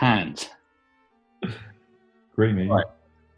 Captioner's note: laughs